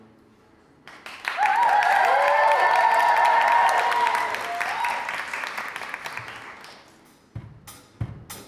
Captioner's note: audience clap and cheer